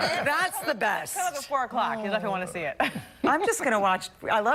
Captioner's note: laughter